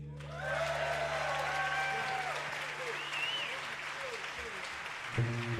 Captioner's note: audience applauding; audience cheering